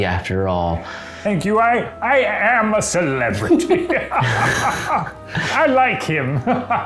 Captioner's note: laughs